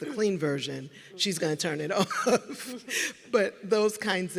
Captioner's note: chuckles